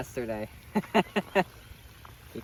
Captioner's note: he laughs